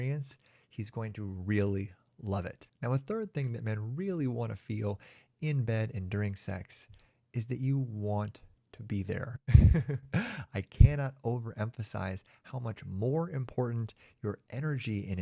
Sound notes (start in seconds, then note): 9.5 chuckles